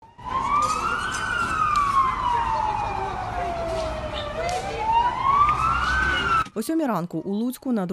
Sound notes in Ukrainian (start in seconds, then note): 0.0 Звуки сирен ДСНС